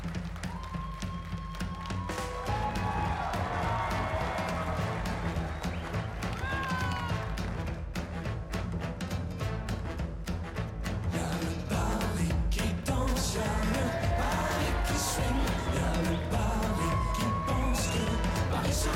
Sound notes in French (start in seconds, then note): 1.8 cris de la foule